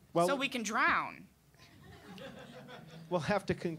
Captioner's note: audience laughing